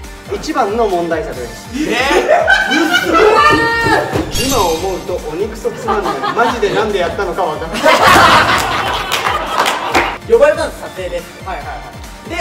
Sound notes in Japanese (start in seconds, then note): 3.7 机を叩く音